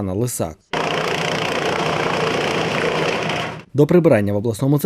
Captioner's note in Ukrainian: Шум газонокосильної машини